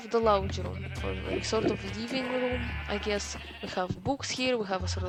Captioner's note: loud animal sounds 2: the sequel